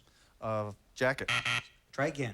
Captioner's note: buzzer